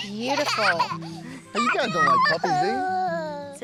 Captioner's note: giggling